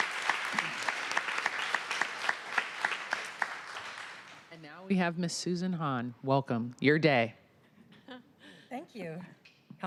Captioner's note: applause